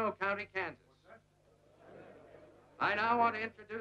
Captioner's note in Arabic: ثرثرة الحشد